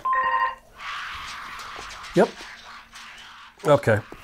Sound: phone rings; demonic screaming

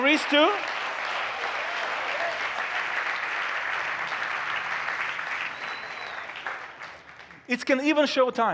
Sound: applause

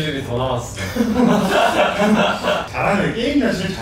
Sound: laughing

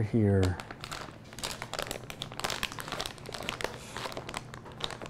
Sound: food packet rustling

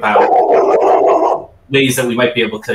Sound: dog barks

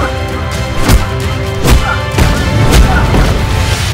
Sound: intense music; grunting

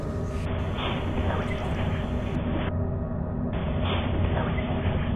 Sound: static hissing

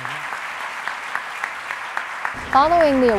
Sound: applause

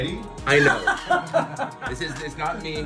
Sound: laugh

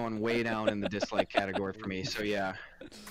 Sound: laughter

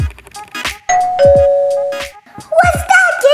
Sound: upbeat music; doorbell chimes

